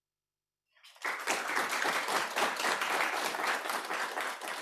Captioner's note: applause